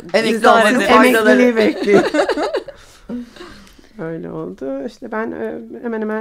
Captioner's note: laughing